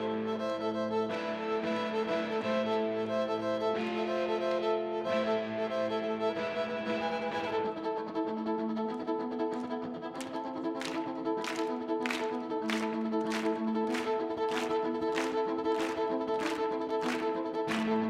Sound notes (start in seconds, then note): 9.3 clapping; 10.1 audience clapping